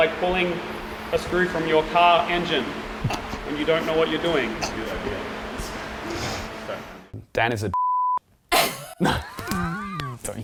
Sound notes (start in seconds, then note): 7.7 beep; 8.6 laughing